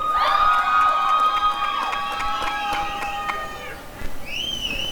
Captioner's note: applause and cheering